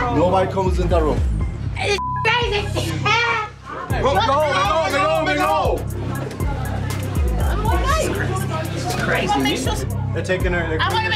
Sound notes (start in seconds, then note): 2.0 beep; 2.7 laughs; 3.1 crowd